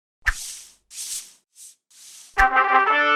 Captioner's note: dry swishing noises; trumpet fanfare